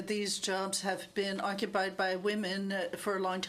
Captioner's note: speaking french